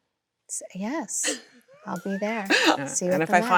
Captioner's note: Chloe laughs